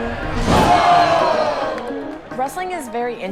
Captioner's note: audience groans